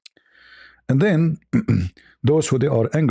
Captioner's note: berdehem